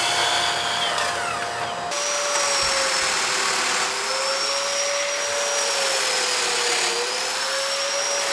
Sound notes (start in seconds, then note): 2.2 saw whirring